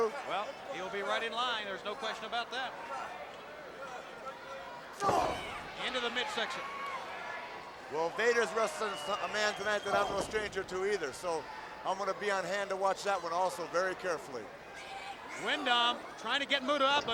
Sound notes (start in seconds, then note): 5.0 blow thudding; 5.1 Barry grunts